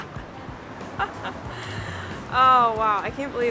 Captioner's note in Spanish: risas